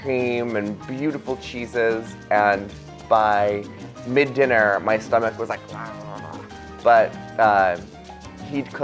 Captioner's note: growling noise